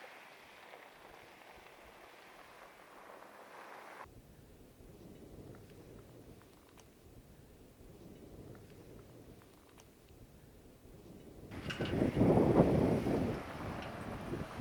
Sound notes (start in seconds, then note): 9.0 wind blowing